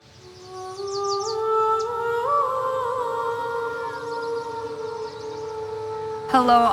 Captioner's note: birds chirping & musical vocalizing